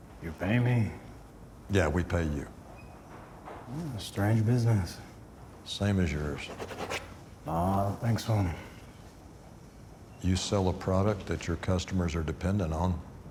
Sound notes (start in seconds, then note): 6.4 pen scratches